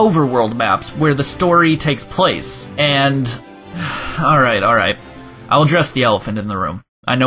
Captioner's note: sigh